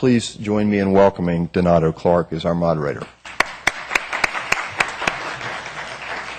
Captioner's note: applause